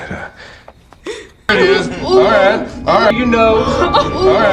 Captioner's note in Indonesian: tertawa